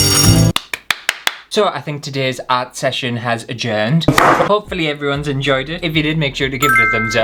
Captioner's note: clapping